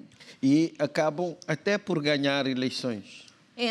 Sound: speaking portuguese

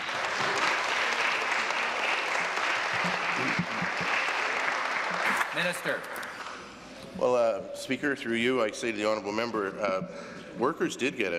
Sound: applause

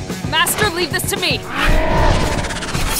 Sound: roar

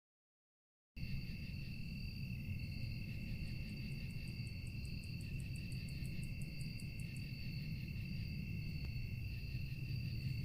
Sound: sound of scary night

